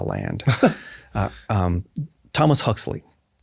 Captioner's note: laughs